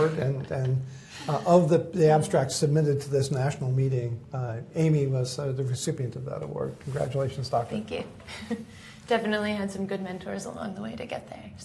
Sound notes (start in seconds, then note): 8.3 chuckles